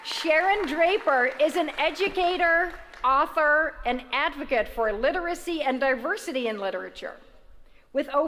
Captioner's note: applause